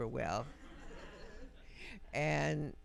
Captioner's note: audience softly chuckling